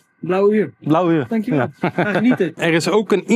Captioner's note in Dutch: gelach